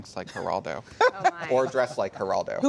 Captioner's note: laughter